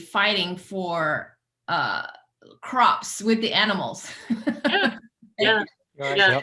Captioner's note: laughs